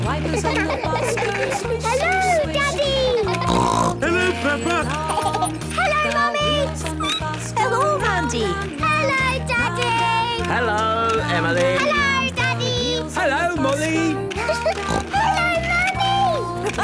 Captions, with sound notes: (laughter) - Hello, Daddy! (snorting) - Hello, Peppa. (laughter) - Hello, Mummy! (squeaking) - Hello, Mandy. - Hello, Daddy. - Hello, Emily. - Hello, Daddy. - Hello, Molly. (giggling and snorting) - Hello, Mummy!